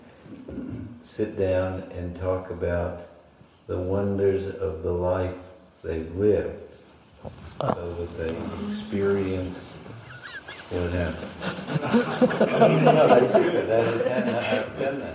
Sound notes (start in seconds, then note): 9.9 laughs; 10.0 laughter